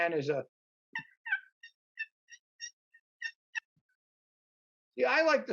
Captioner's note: turkey call